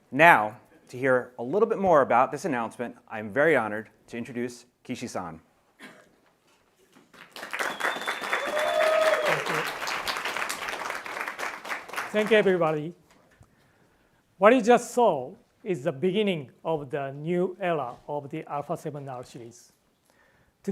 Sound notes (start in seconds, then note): 7.0 audience applauds; 7.5 audience member whistles